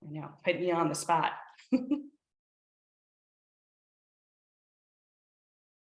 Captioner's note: chuckles